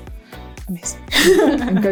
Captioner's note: laughter